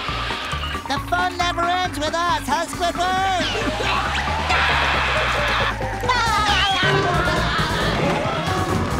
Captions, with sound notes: The fun never ends with us, huh, Squidward? [screaming] [laughing]